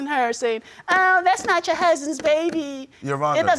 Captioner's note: imitating woman